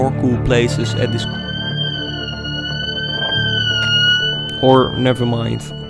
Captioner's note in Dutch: alarm